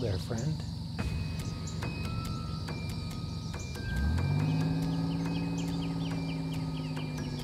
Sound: dramatic music; engine roaring

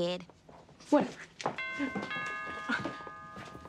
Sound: doorbell rings

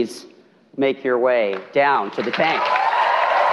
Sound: cheering

